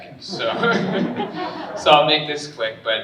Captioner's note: all laughing